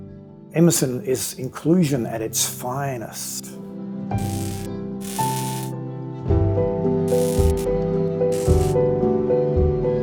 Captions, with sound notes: Emerson is inclusion at its finest. (electricity buzzing) (gentle music)